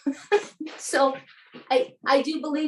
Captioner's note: both laughing